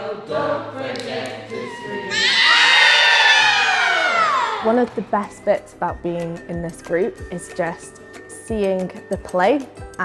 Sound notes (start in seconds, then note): 0.0 singing; 1.6 screaming